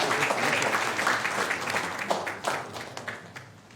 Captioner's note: applause